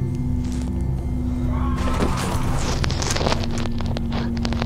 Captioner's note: roaring